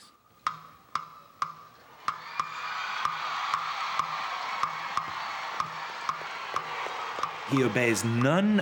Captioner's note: cheers and applause